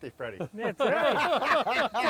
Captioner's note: all laughing